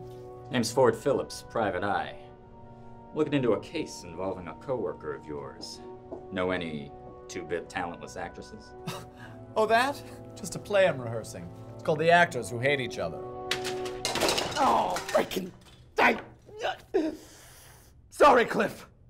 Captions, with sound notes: Name's Ford Phillips, private eye. I'm lookin' into a case involving a coworker of yours. Know any two-bit talentless actresses? Oh, that? Just a play I'm rehearsing. It's called "The Actors Who Hate Each Other." *commotion* Buster Keaton: Oh, freaking - Sorry, Cliff.